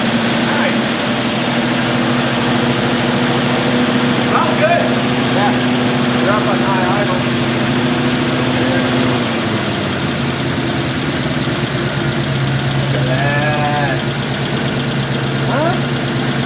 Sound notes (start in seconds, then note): 1.5 engine revving; 10.3 engine rumbling